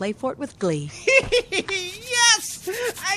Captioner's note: laughing